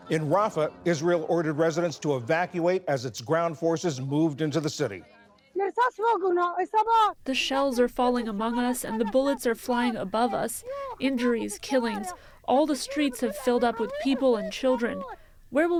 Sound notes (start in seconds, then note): 7.2 through translator